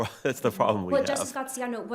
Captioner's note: chuckles